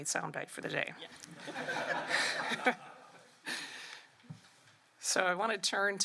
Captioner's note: laughter